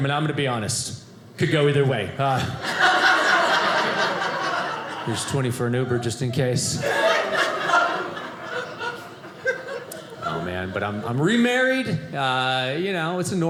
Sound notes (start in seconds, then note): 6.8 audience laughing